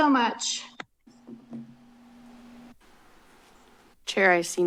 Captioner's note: silence